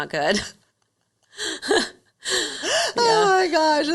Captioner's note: laughing